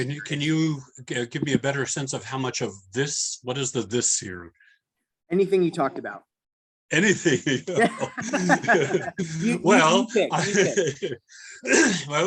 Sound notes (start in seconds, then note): 8.6 laughter